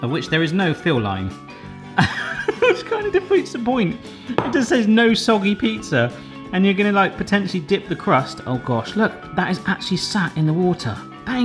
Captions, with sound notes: of which there is no fill line (laughs) which kinda defeats the point. It just says no soggy pizza and you're gonna like potentially dip the crust. Oh gosh, look that is actually sat in the water.